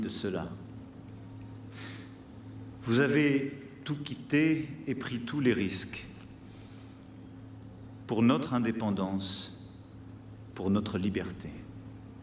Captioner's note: speaking french